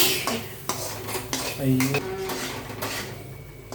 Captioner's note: talking in tamil